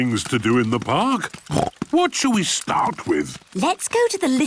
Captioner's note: snorts